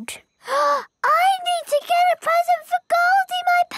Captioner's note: gasps